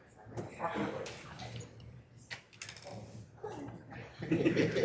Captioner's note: members chattering